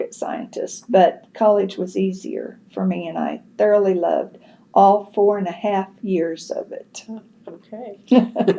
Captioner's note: laughs